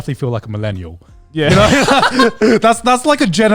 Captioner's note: both laughing